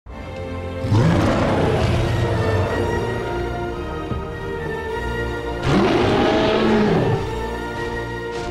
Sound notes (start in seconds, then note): 0.8 loud growling; 5.6 loud roaring